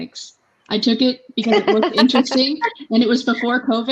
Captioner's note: laughing